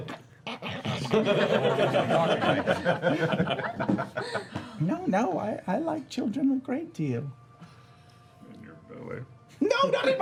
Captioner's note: eating noises